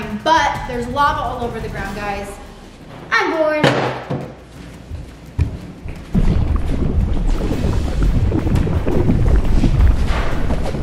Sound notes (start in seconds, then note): 3.6 object hitting table; 6.0 bubbling